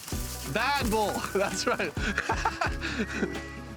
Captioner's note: laughs